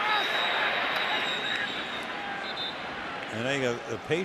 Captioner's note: whistle